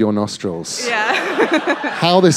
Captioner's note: laughter